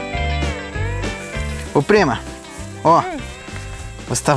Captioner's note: forest noises